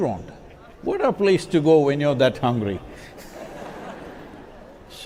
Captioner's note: few laugh